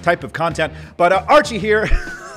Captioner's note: laughing